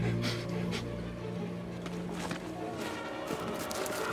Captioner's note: Walter sniffing; dramatic music